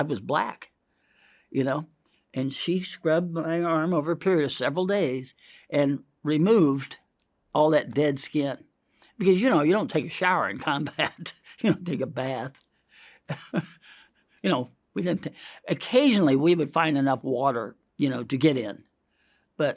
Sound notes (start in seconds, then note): 13.3 chuckles